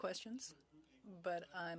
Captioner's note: speaking French